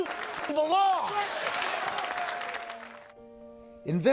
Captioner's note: cheering and applause